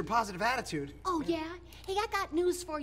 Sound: mocking

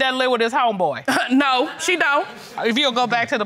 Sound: scoffs

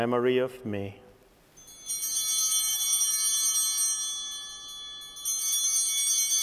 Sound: chimes ringing

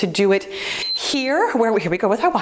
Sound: timer beeps

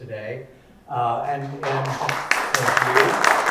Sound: audience applauding

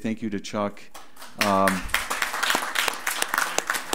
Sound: group applauds

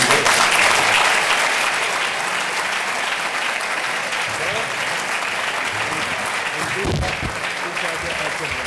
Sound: applause

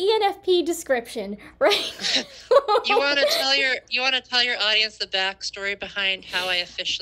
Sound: laughter

